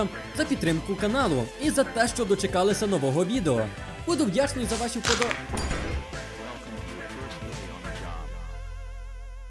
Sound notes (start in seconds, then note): 4.7 crunch; 4.7 sound of object falling